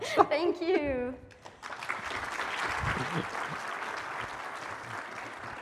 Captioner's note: applause